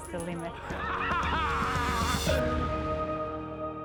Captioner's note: laughs